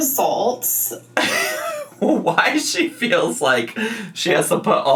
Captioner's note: laughs